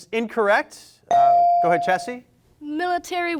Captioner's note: bell rings